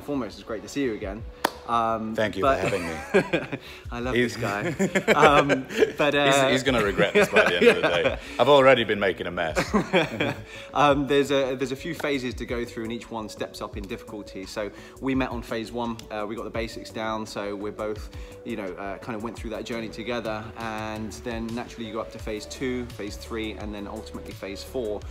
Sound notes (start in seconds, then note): 4.4 laughs